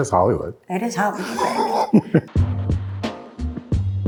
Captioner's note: chuckles